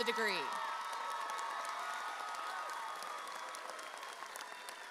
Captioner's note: audience cheers